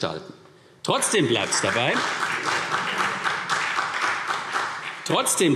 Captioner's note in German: Beifall CDU und Freie Demokraten